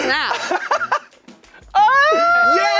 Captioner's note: laughing